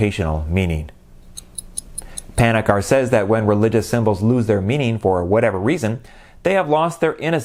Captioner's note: clock ticking